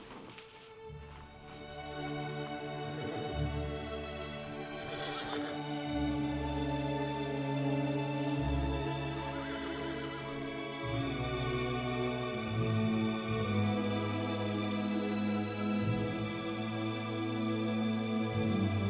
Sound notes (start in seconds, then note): 0.2 soft music; 4.6 horse whinnying; 6.2 soft music; 9.1 horse whinnying; 12.0 soft music